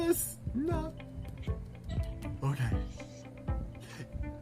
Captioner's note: laughs